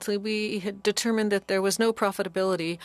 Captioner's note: speaking French